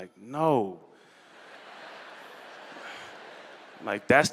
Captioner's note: laughter